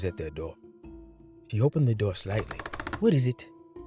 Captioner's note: door creaks